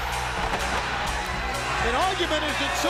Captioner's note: crowd cheering